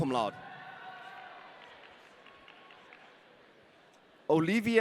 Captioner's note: audience cheering